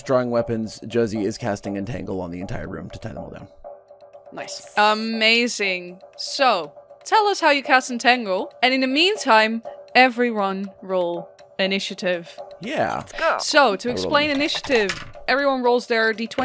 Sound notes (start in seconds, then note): 5.1 whispering; 13.5 dice tower clacks, assorted Good Dice Noises